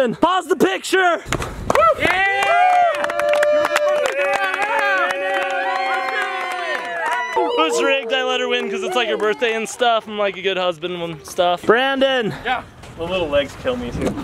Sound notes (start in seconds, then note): 1.9 all cheering